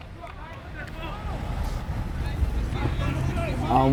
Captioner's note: players shouting